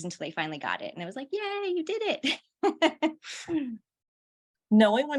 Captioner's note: laughter